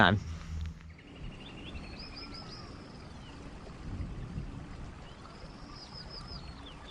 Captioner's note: birds chirping; water splashing